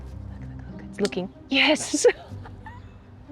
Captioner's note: laughs